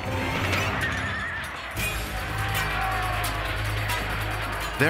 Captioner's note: horses neighing; men shouting